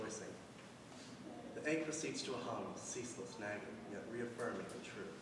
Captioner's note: none